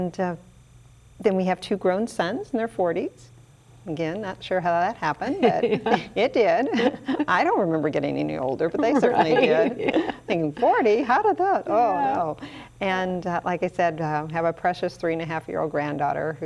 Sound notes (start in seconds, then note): 5.3 chuckles; 8.8 everyone laughs